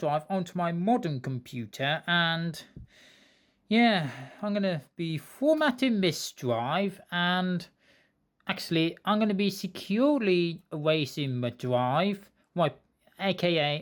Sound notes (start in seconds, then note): none